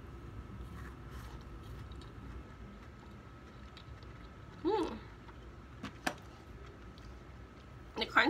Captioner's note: crunch crunch crunch crunch crunch crunch